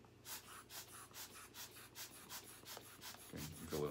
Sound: air bulb puffing

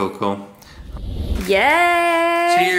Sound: whooshing sound

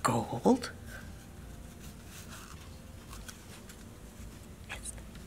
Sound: cardboard rustling

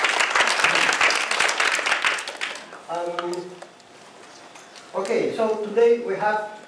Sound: applause

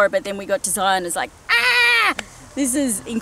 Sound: playfully screams

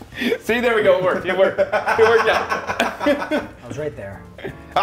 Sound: laugh

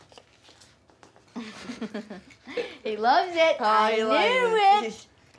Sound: chuckles

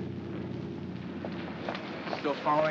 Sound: footsteps

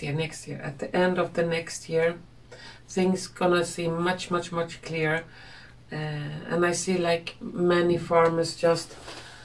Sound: leans back and exhales

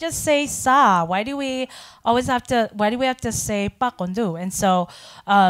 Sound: speaking in foreign language

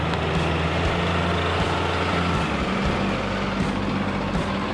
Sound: truck engine humming

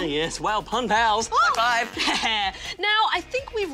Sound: fart noise

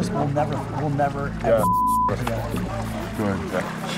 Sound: beep

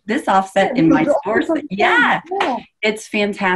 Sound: speaking faintly

